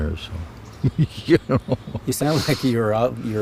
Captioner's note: laughing